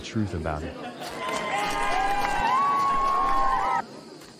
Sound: crowd cheering

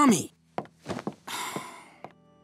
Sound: sighs

